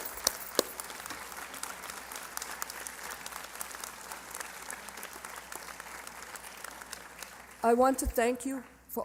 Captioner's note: applause